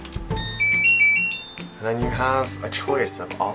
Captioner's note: beeping